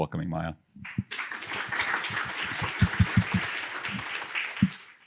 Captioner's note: applause